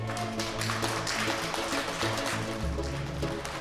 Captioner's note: applause